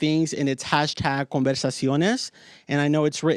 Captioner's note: speaks in foreign language